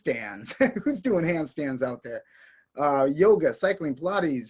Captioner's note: chuckles